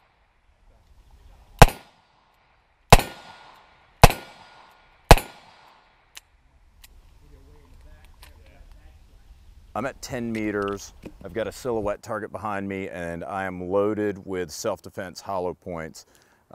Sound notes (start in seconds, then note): 0.3 gun shots; 7.4 voiceover